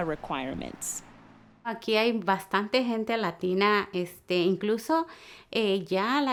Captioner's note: speaking Spanish